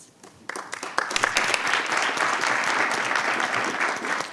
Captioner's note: audience applauding